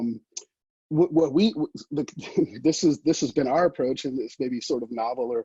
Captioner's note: chuckles